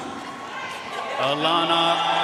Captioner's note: audience cheering and applauding